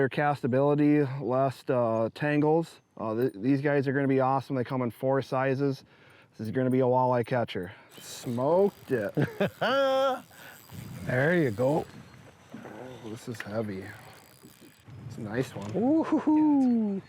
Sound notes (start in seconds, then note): 9.1 person laughing